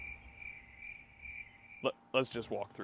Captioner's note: crickets